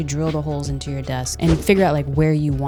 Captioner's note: wind whipping